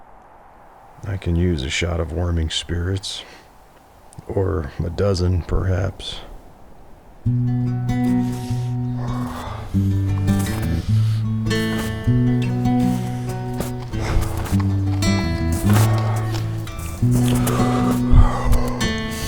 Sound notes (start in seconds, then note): 12.0 slow footsteps; 16.6 painful breaths